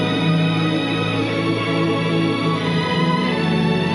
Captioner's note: ship hovering